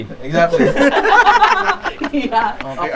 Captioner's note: laughs